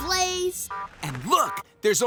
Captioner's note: beeping